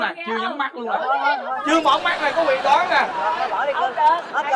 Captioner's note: laughing